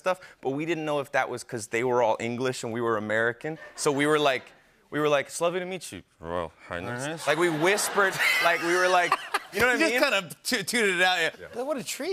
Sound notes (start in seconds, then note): 7.2 laughter